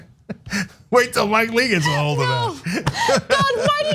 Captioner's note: laugh